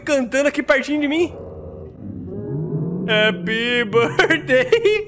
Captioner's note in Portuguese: risos